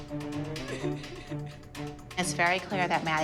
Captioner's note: Maddie cries